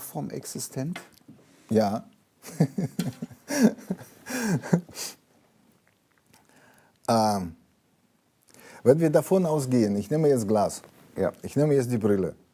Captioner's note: laughs